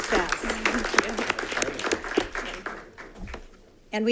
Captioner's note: applause